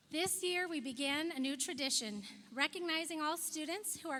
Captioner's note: none